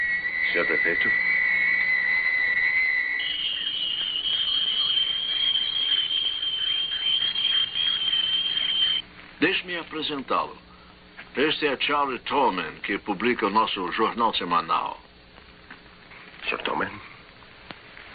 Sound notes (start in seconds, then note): 4.4 birds screeching